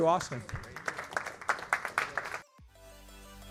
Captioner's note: applause